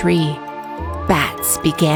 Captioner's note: owl